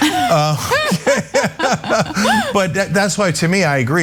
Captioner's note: laugh